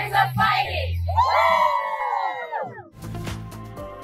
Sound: group cheering; soft music

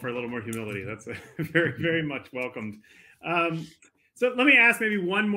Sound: laughs

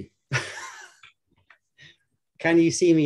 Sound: laughter

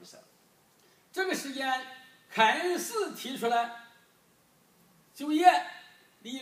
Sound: speaking foreign language

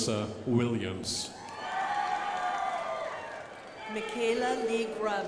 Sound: crowd applauding

